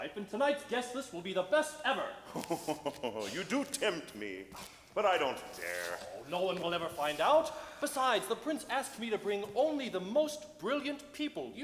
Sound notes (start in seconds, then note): 2.3 laughs